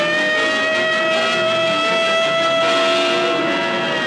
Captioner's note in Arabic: صافرات الإنذار تصرخ